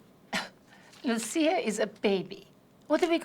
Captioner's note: scoffs